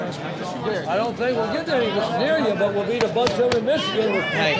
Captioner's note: chatter